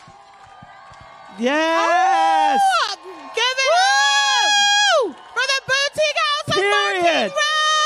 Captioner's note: applause